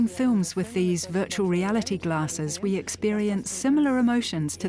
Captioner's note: in German; dubbed in English